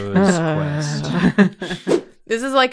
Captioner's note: laughter